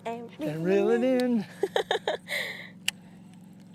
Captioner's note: laughter